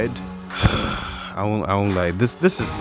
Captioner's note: frustrated exhaling